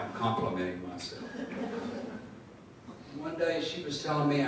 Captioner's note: audience laughing